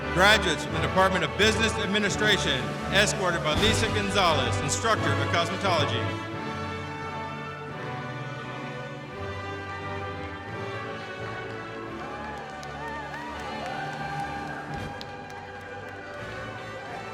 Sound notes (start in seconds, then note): 7.9 orchestra music continues; 11.9 audience cheering